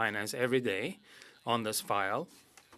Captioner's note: speaking French